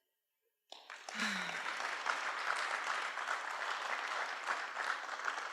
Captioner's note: applause